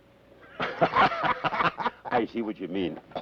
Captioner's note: both laugh